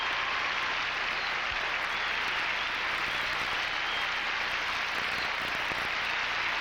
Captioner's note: applause